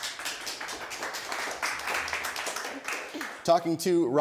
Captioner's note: audience applause